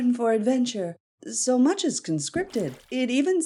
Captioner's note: bubbles burble